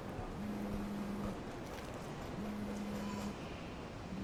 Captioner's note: cellphone buzzing